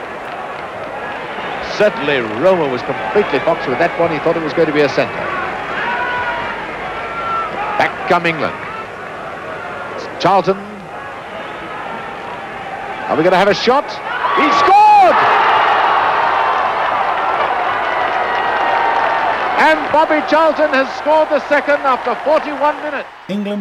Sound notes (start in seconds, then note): 14.0 crowd roaring